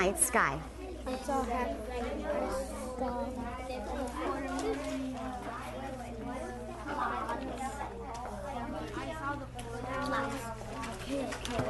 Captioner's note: student Discussing